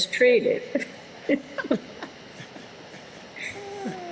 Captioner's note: laughter